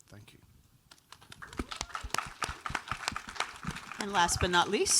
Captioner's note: audience applauds